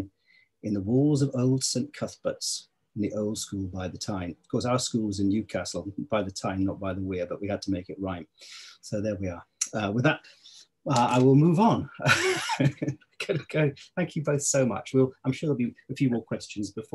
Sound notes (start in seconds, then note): 11.9 laughs